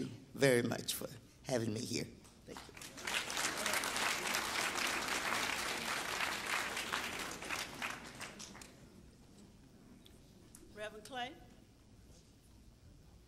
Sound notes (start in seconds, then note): 4.1 applause